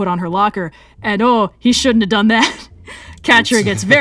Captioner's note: laughs